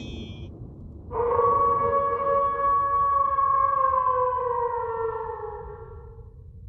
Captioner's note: howl